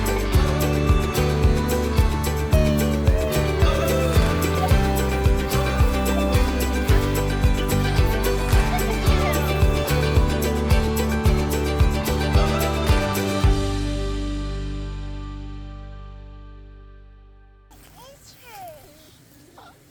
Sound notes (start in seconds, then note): 2.6 people exclaiming; 11.0 light music